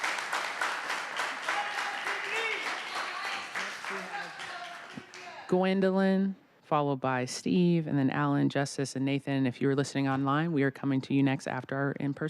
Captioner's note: applause